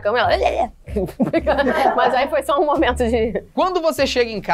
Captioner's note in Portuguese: risadas